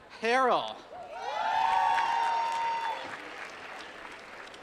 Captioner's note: applause